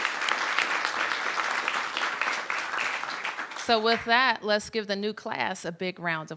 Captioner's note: applause